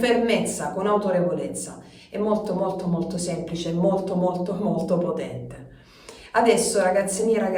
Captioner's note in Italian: sbuffare